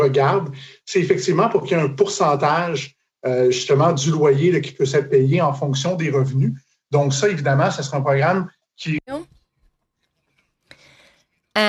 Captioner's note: speaking French